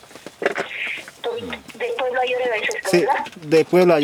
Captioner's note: voice on the phone